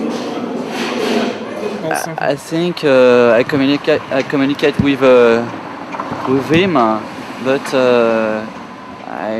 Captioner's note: in english french